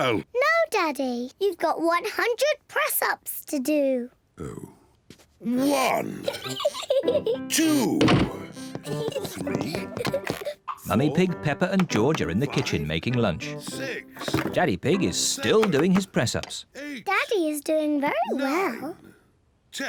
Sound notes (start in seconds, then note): 5.8 giggles; 8.6 children giggle